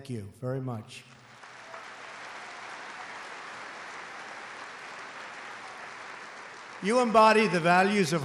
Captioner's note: applause